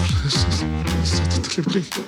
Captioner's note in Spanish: Habla entre dientes